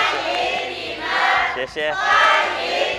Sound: workers speak Mandarin; all speak Mandarin

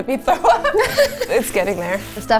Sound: laughing

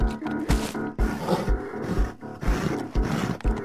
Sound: heavy breathing

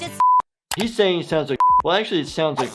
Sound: beep

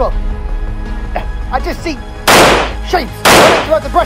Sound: gunshot Sound; gunshot Sounds

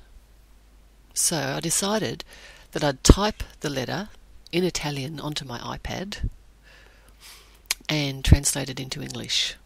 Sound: in Italian

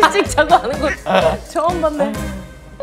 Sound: haha

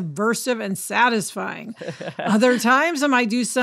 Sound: laughs

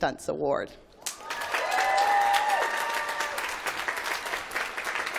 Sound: applause

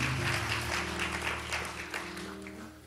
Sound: applause

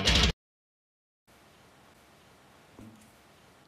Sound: awkward pause AGAIN

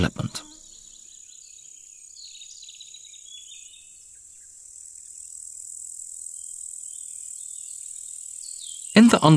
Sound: sounds of nature

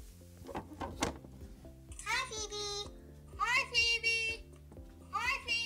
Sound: voices on computer

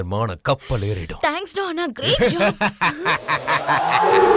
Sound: laughs

